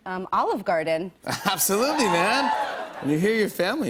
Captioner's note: cheers